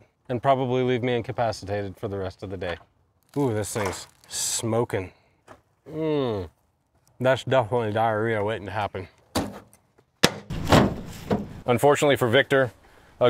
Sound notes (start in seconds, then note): 9.4 palm smacks; 10.2 door thunks